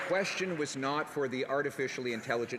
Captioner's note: some Applause